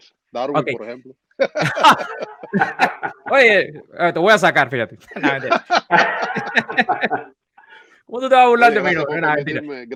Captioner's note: laughs